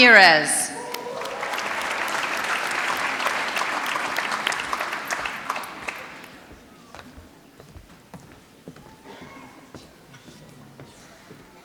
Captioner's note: applause